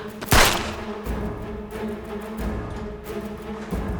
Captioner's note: gun firing